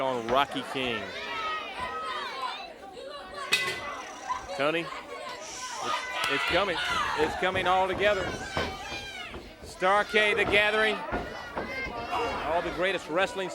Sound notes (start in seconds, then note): 2.6 crowd chatter; 4.6 bell ringing